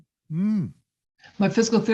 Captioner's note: groans